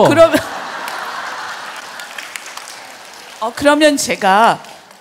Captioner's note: questioner/Audience laughs/claps